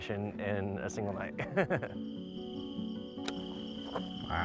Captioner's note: laughs